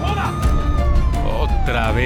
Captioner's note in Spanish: Sirenas